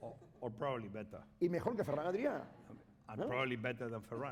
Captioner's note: speaking spanish